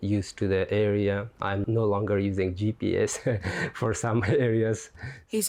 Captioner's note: laughs